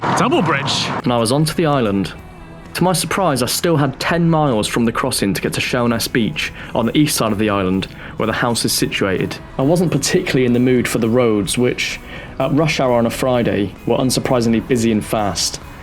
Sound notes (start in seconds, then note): none